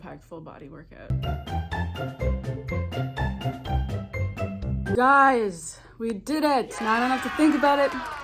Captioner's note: cheering